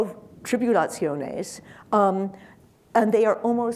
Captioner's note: speaking in foreign language